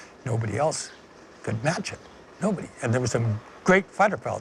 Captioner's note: none